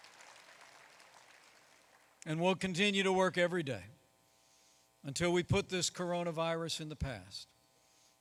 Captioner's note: applause